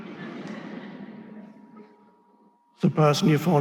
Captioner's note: audience laughing